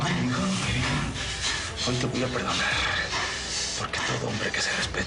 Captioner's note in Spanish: Ambos jadean